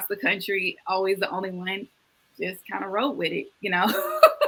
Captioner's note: laughs